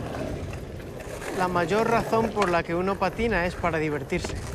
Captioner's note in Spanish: voz en off